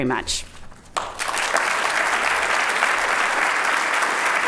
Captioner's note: applauding